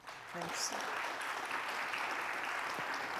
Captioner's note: applause